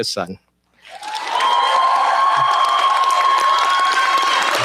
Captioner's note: cheers, applause